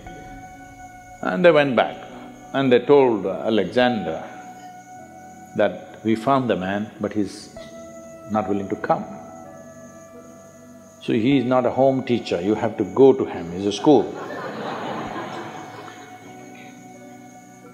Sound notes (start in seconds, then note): 14.1 laughter